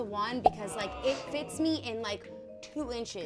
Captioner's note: popping